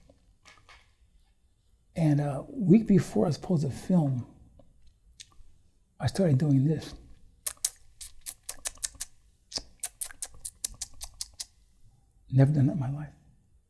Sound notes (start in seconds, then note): 9.5 makes noises with his mouth